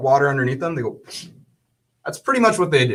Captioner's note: makes sucking sounds